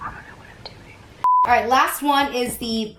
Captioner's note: beep